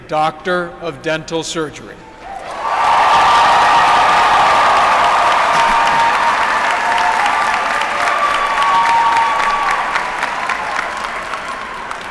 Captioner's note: applause